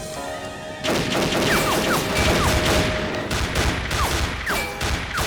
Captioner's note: gunfire clattering